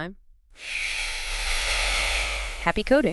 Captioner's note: air Whooshing